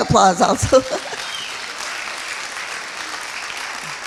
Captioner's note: applauding